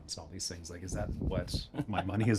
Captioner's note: attendees laughing